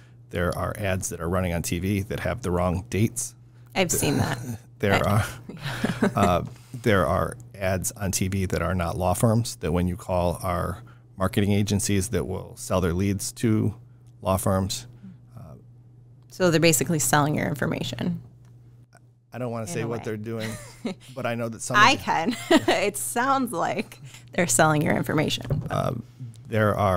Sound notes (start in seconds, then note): 4.9 laughing